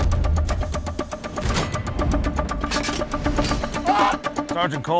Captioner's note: dramatic music continues; metal clangs; machine whirs